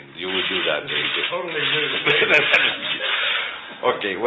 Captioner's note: laughter